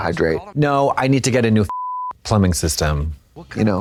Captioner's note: beep